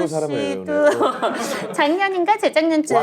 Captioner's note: hahaha